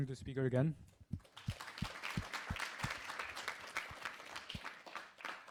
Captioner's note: applause